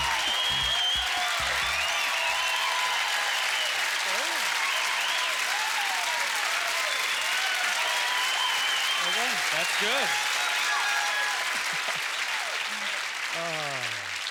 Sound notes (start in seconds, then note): 9.8 audience cheers and applause; 11.6 chuckling; 13.4 sighs